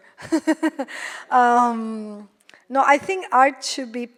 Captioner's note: laughs